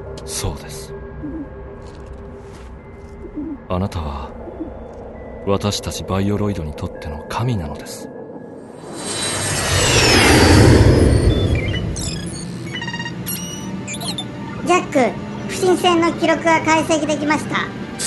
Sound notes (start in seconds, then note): 1.2 dove coos; 8.5 Jack's turbocycle flies through sky